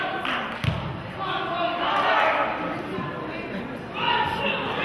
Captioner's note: murmurs; team hollers